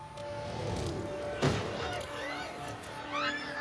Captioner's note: tense music; gunshot firing; screams